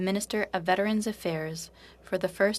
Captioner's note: speaking French